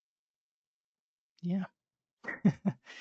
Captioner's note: laughs